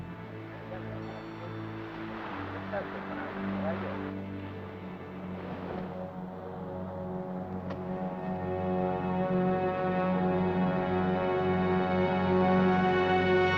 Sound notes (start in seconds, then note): 0.7 speaking in Spanish; 6.3 ominous music